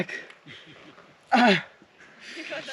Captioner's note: moans intensifies